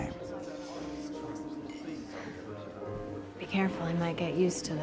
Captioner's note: overlapping chatter